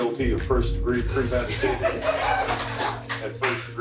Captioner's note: cheering and applause